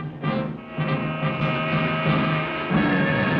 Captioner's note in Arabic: صوت بوق السيارة; موسيقى متوترة ومهددة